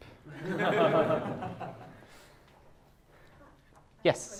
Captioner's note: class laughs